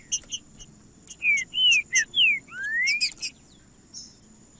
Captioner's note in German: trinca ferro cantando